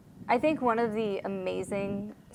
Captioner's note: none